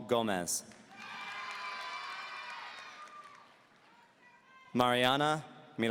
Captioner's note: audience cheering